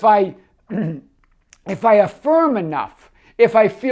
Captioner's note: throat clearing